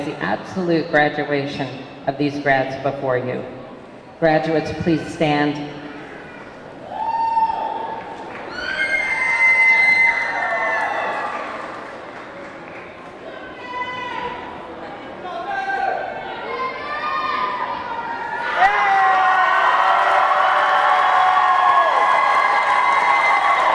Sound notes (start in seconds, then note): 5.8 audience clamoring; 18.3 audience cheering; 19.9 audience clapping